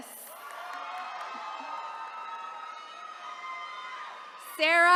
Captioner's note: attendees cheering